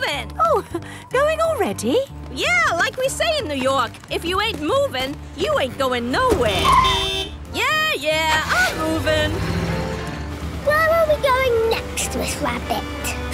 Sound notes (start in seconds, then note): 6.4 honking